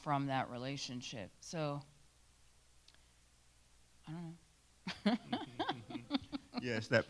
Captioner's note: laughs